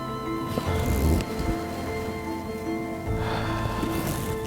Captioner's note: deer call grunts